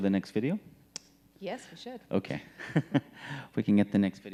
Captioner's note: laughing